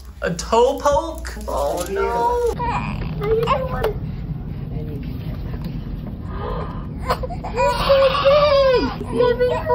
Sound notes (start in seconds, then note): 1.9 baby whines aloud; 7.4 baby cries out, loudly